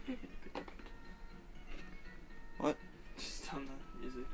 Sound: humming

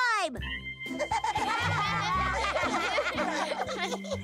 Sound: children laughing

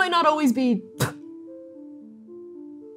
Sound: spitting

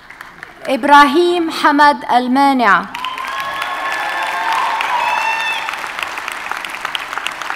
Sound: audience cheers and applauds

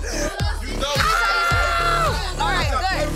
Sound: screaming

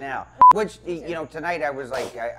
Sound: sneezes

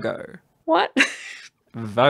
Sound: laughs

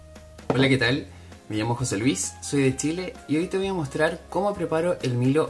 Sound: speaking in foreign language

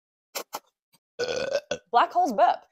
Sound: burp

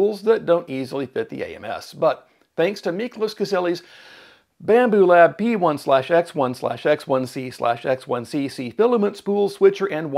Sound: takes deep breath

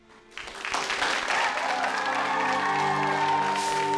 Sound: applause

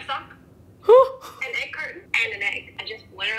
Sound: chuckles

